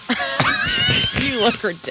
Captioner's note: laughter